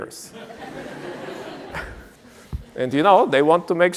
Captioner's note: laughter